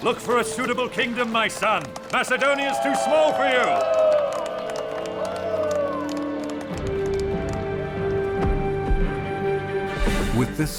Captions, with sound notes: Look for a suitable kingdom, my son. Macedonia is too small for you. [people cheering] [inspiring music]